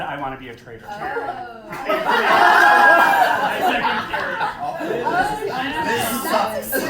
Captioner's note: general clamor, "oh shit!"